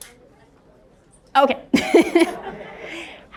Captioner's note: laughs